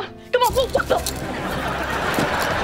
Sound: laughing

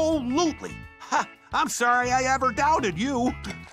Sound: chuckles

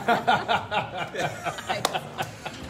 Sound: group laughing

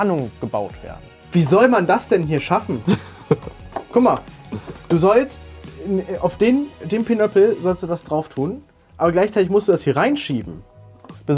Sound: chuckels

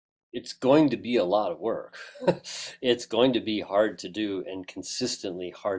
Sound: laugh

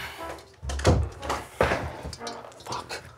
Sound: chair clatters

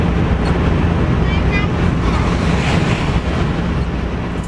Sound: kids chattering

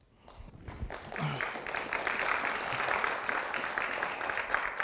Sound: audience clapping

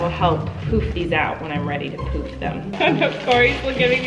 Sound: laughing

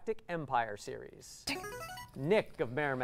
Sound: player buzzer

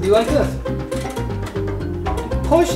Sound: crank turns

